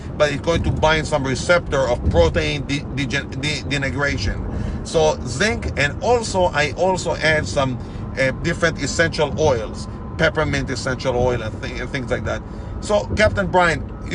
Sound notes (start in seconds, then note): none